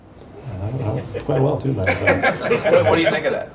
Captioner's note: reporters laughing